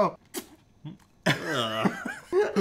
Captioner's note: mumbling; spits; laughs